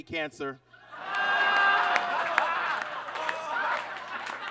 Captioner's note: audience laughs